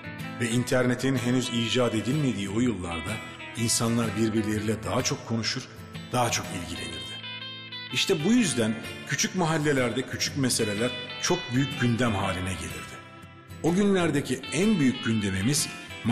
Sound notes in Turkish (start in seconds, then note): 7.7 Ahmet dış ses; 13.5 Ahmet dış ses